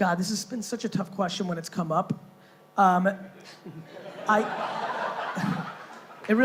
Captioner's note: laughing